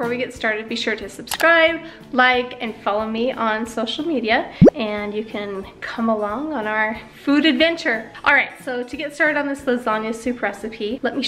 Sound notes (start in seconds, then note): 4.6 tags bloop